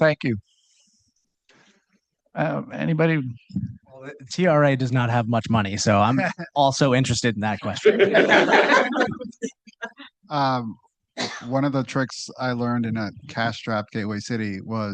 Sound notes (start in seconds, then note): 7.7 laughter